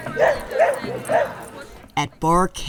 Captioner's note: dog barking